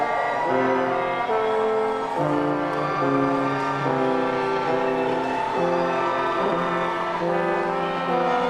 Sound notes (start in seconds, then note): 3.2 audience cheering